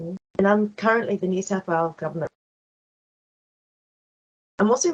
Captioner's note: sound cuts out